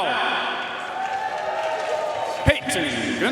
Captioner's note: audience cheering and applauding